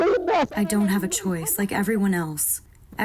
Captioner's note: through translator